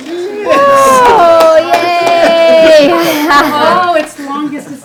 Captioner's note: group cheers